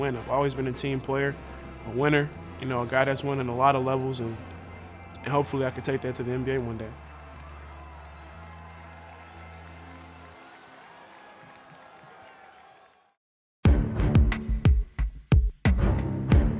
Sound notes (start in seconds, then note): 7.8 crowd cheering; 13.6 upbeat music